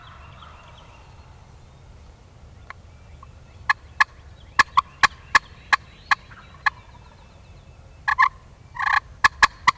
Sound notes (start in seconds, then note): 3.9 turkey call